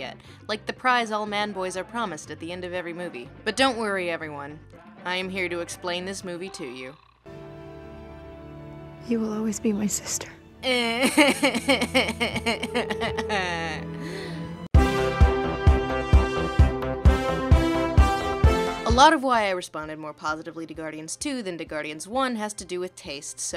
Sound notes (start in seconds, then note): 10.6 sobbing